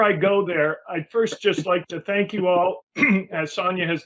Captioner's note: clears throat